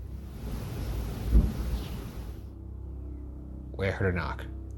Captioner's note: light knocking